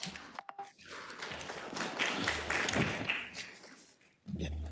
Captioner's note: attendees applauding